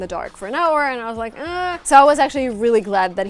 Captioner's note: groaning